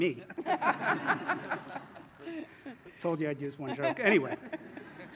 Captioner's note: laughter; laughter